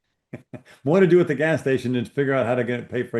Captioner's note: laughs